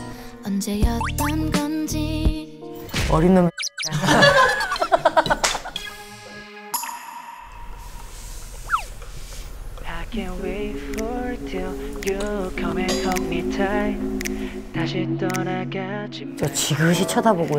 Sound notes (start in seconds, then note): 3.7 haha